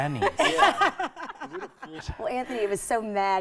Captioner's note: laughing